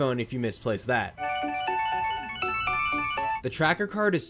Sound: phone ringing melodically

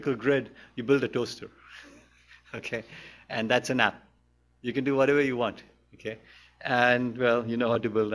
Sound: chuckles

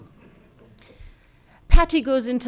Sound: people chuckling

